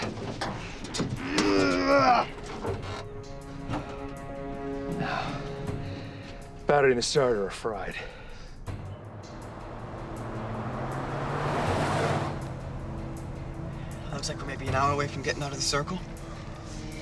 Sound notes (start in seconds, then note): 1.2 moan